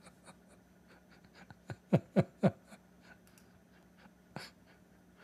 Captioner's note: Ketawa